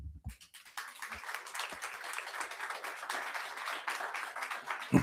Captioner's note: audience applauding